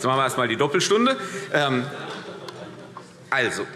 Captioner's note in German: Heiterkeit